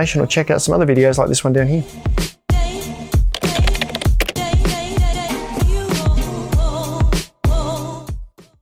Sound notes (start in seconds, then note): 3.3 upbeat electronic music; 3.3 typing clicks